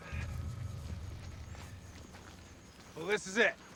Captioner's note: footstep